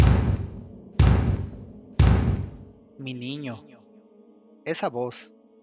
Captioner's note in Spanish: Toc… toc… toc…